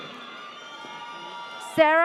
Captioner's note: audience cheers